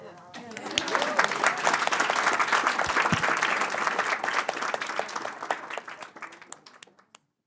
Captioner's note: applause